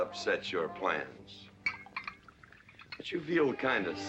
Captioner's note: liquor pouring